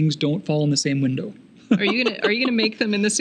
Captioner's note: laughing